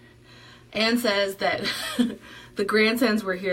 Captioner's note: chuckles